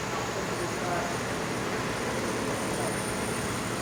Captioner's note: machinery